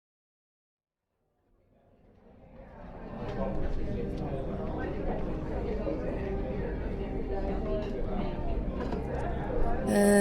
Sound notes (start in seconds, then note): 7.0 people talking in a cafe